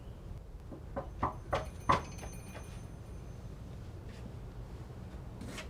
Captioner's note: knocking